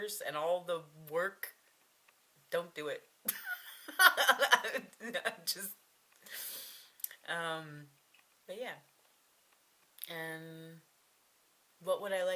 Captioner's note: laughs